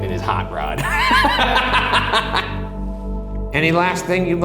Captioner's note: laughs